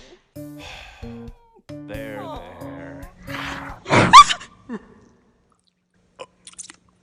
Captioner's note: ooing and awing; sighs; gasps